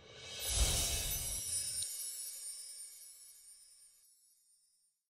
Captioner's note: bells jingle